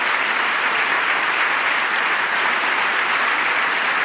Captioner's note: applause